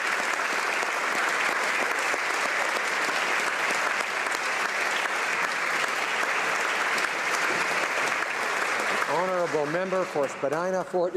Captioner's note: applause